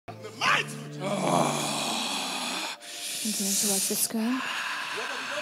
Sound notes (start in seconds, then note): 1.0 demon growling